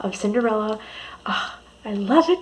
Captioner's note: exhale